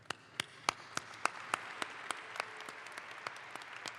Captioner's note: audience applauds